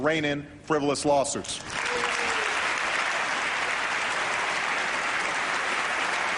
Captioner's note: applause